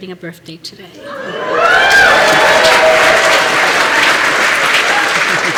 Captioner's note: applause